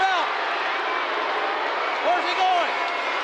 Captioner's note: audience jeering